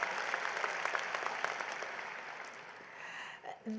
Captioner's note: applause